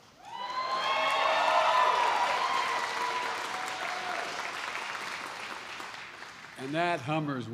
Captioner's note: applause